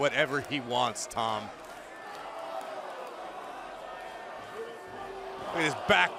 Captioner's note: crowd cheering